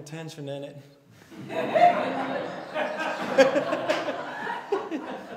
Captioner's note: laughter